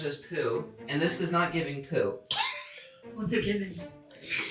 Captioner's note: laughing